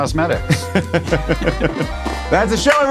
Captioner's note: laughs